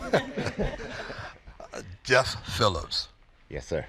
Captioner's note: laughter